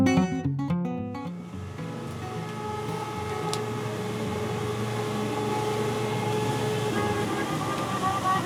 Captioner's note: engine revving